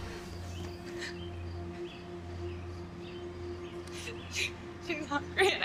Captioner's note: Kathleen sobbing